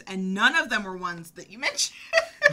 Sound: both laughing

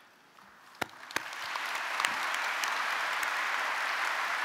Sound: audience applauding

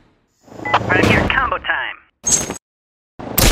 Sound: over comm

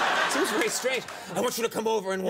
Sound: audience laughing

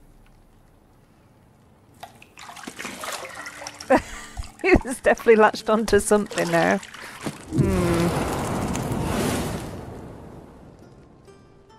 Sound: laughing

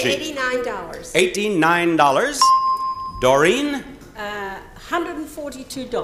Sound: bell chimes

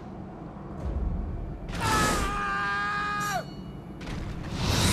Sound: Cesare screams

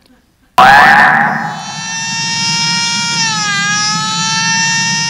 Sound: dramatic noise

